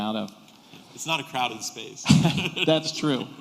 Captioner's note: laughter